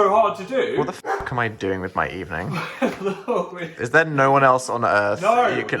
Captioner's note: bark